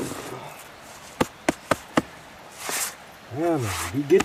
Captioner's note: tap tap tap